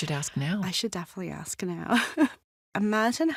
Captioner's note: chuckles